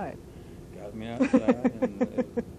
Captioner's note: laughter